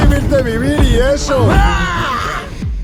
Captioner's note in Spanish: Grita